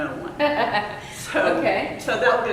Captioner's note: laughter